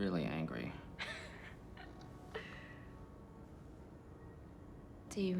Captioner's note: Madeleine laughs